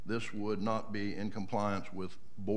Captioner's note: none